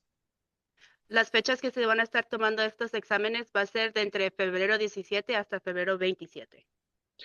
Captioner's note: speaking in Spanish